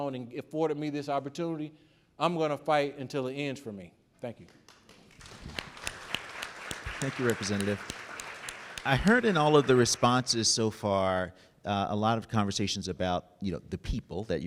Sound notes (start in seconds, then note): 4.4 audience clapping